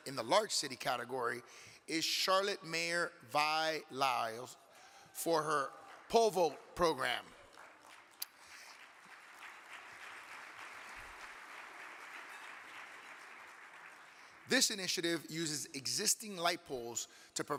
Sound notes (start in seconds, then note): 6.8 audience clapping